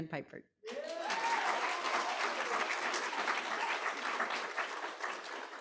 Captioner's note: audience applauding